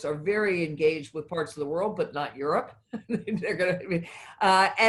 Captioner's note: laughs